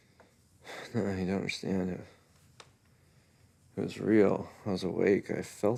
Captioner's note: sighs